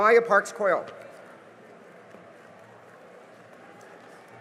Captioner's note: cheering and applause